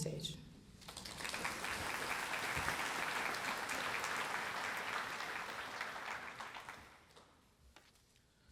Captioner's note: applause